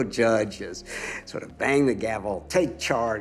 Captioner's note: laughs